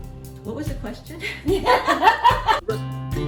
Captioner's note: laughter